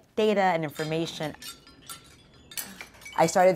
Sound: medals clinking

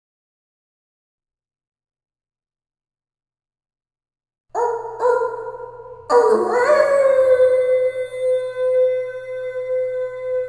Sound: sound of wolf howl

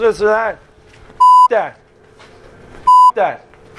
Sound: bip

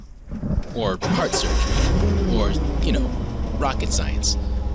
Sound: engine roars

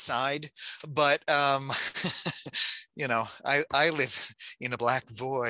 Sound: laughing

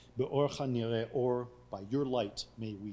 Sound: speaking foreign language

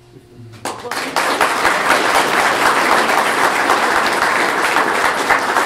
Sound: clapping

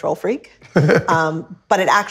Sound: laughs

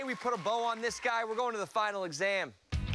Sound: cheers and applause

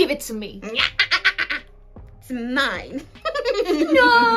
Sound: evil laugh

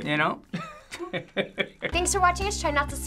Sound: both chuckle

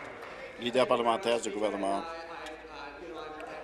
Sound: applause

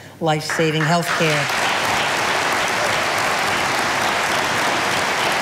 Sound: audience applauding

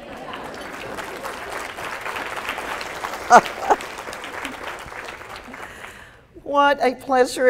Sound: applause

